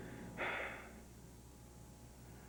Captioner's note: Josh sighs